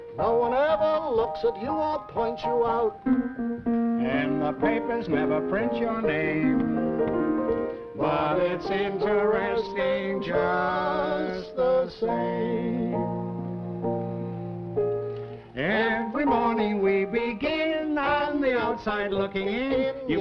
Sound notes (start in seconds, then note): none